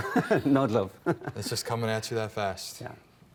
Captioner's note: laughing